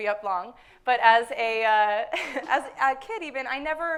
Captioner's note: laughs